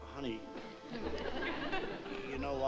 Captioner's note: laughter